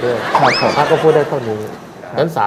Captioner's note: laughing